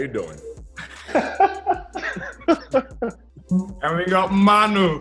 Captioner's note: laughs